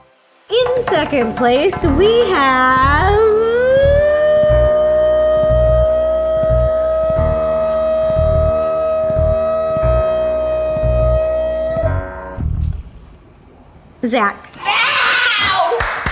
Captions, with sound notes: - In second place, we have (vocalizes) Zach.